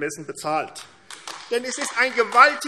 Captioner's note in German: Beifall AfD